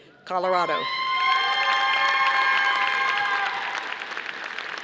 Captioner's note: audience applauding